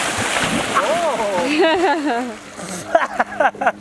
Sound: laughs

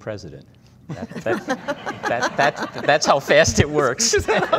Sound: laughing

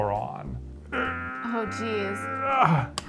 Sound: strains

